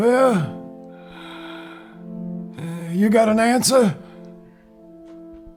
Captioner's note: breathing heavily